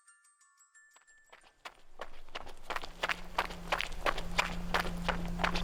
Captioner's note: footsteps thudding